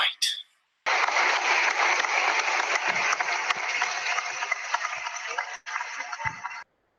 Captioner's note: applause